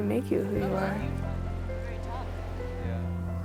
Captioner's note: indistinct chatter